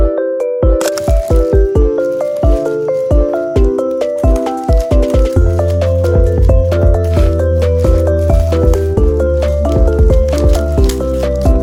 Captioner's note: unwrapping